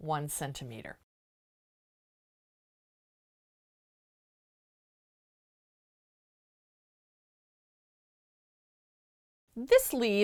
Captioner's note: no Sound Present